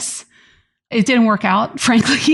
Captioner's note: laughs